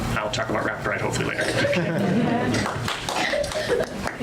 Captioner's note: audience laughs